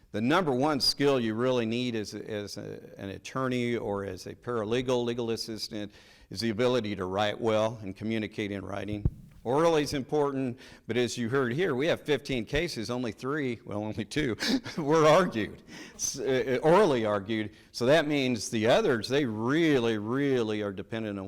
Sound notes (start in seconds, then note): 14.3 chuckles